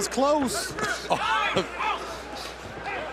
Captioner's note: laughter